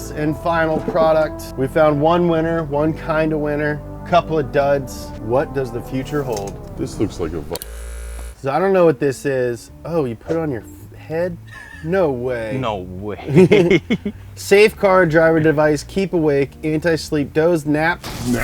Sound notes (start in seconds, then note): 6.0 error vibrates; 6.2 music deflates; 13.2 laughs; 13.2 both laugh